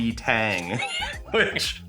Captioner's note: laughing